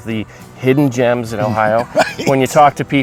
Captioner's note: chuckling